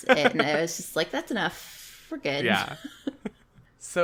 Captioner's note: laughs